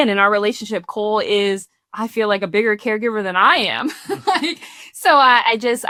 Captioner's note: laughs